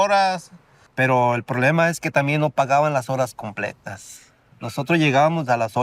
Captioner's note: speaking in Spanish